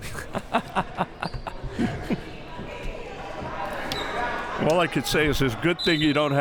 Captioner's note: laughs